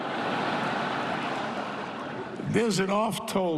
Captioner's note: laughter